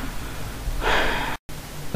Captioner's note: sigh